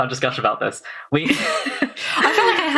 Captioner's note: laughs